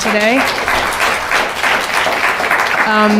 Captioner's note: applause